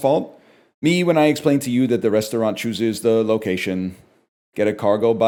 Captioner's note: sarcastically